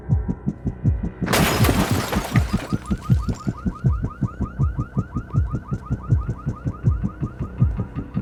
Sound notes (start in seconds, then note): 1.2 glass shatters; 2.3 car alarm goes off